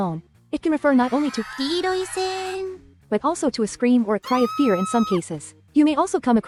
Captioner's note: screaming cheers